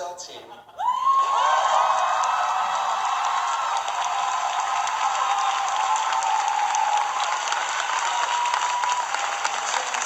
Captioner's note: audience cheering